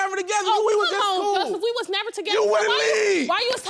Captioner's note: yelling